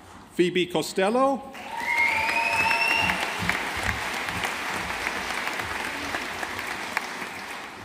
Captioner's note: audience applauding